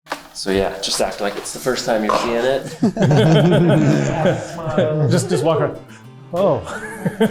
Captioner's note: laughing